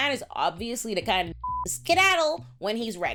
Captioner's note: beep